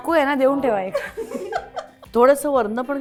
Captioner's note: Arati Ankalikar-Tikekar chuckles